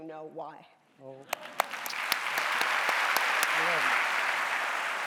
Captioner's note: audience applauding